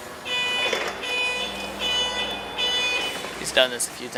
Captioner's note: beeping